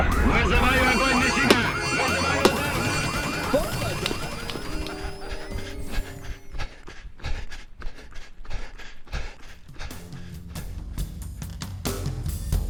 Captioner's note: gun fire; troops yelling in Ukrainian; alarms sounding off; heavy breathing